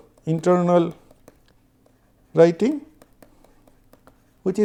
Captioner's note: Clock